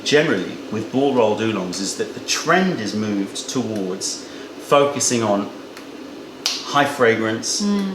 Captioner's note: finger snap